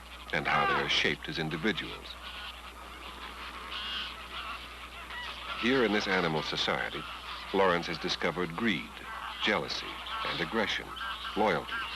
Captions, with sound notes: and how they are shaped as individuals. [ Birds Cawing ] Here in this animal society, Lorenz has discovered greed, jealousy, and aggression, loyalty